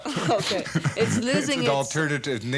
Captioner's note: both chuckle